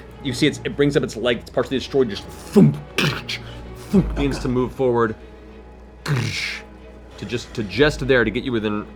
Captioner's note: heavy footsteps